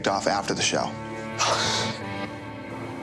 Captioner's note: sighs